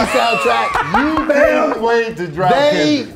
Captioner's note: laughing